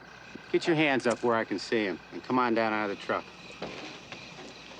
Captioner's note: none